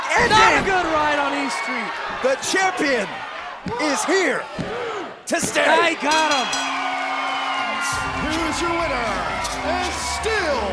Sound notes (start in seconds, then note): 0.3 crowd cheering; 6.1 bell dinging